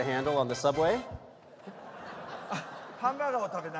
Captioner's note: laughter